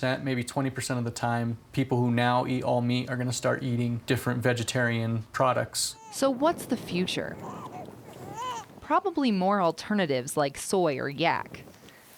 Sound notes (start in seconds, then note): 6.1 voiceover; 8.1 baby crying